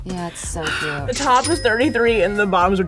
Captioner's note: cash sound